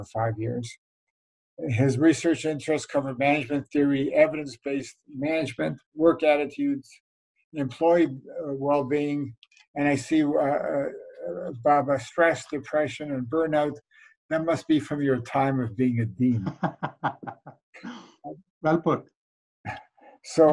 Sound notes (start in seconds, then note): 16.2 laughes